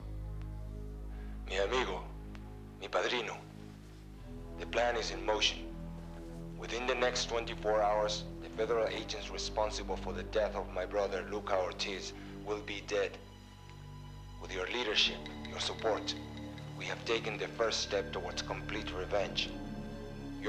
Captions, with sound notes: (ominous music) (speaking in a foreign language) - The plan is in motion. Within the next 24 hours the federal agents responsible for the death of my brother Luca Ortiz will be dead. With your leadership, your support, we have taken the first step towards complete revenge.